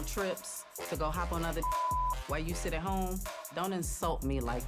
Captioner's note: beep